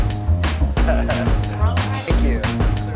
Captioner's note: laughing